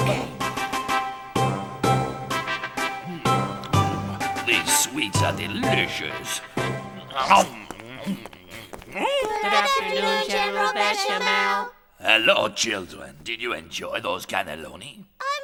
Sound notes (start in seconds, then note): 0.0 dramatic music; 6.8 Bechamel chomping